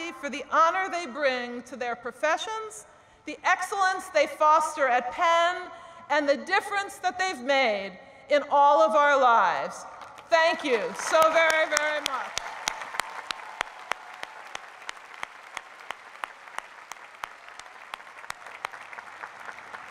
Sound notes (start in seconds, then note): 12.9 applause